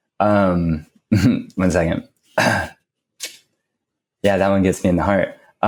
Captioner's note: chuckles; clears throat